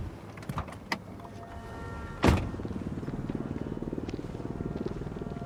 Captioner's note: doors clicking